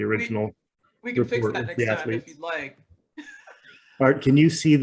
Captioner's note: laughs